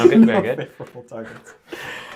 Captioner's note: laughing